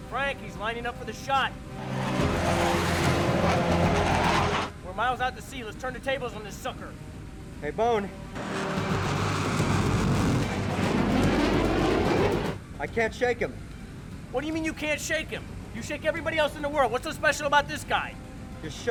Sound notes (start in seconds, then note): 1.4 intense, dramatic music; 1.6 aircraft whooshing; 8.2 intense, dramatic music; 8.3 aircraft whooshing